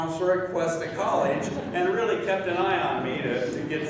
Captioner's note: laughing